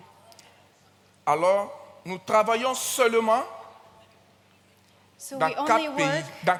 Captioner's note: continues in French